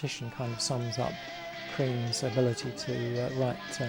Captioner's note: laughs